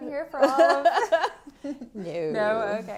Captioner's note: laughter